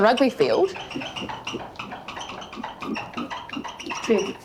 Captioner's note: marker squeaks